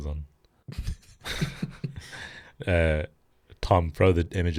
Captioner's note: both laughing